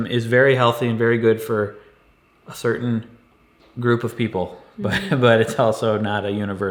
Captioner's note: laughs